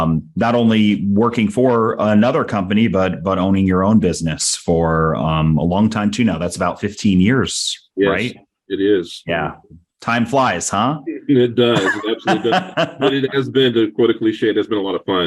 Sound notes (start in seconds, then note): 11.0 laughs